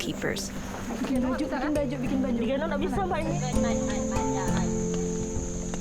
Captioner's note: speaking in foreign language